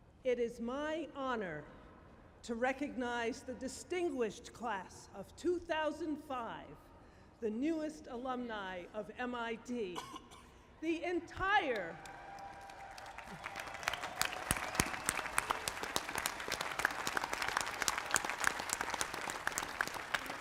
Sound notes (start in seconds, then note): 11.5 cheering